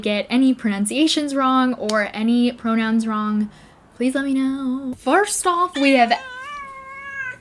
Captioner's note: cat meowing